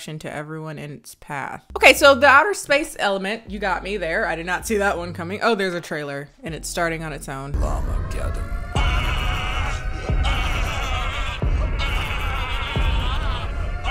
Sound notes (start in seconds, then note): 8.2 continuous screaming; 8.4 sirens blaring